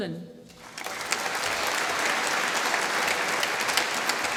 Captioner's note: applause